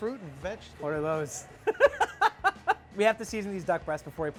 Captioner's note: laughs